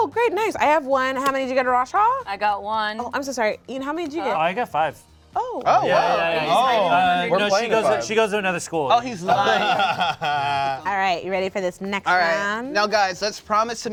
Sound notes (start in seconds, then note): 6.0 cast exclaims; 9.1 laughs